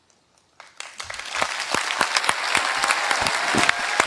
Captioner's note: applause